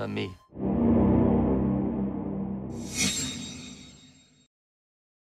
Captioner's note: harmonic tonal noise